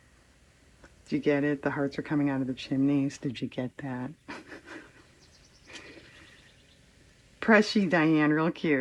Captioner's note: laughs